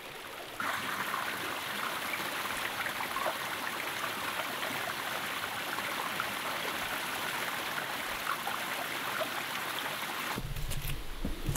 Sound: healing time with the sound of water

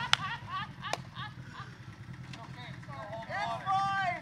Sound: laughing

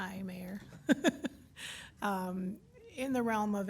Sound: laughs

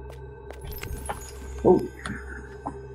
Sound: sparkle

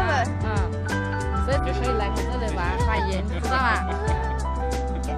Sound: in Mandarin

